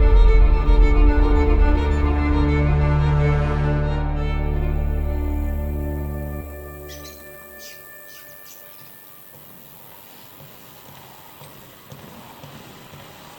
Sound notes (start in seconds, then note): 5.4 birds chattering